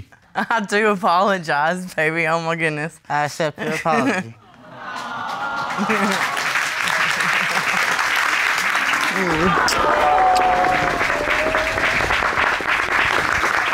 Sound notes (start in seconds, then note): 4.0 chuckles